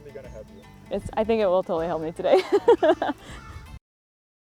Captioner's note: laughs